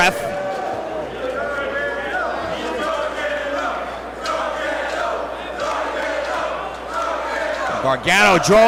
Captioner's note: applause